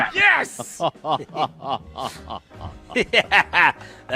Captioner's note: both laugh